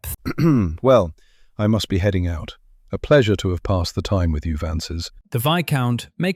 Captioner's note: clears throat